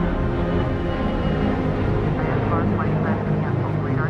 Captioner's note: jets rumbling; airport chatter